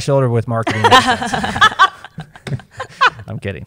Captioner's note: laughter